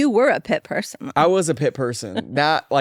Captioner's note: laughs